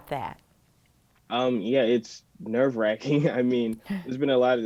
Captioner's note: chuckles